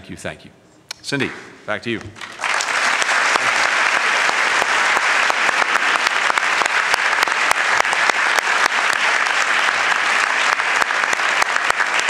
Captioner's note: applause